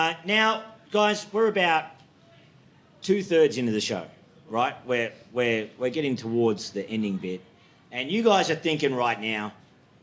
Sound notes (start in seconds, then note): none